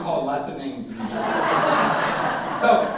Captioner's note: audience laughing drowning out speaker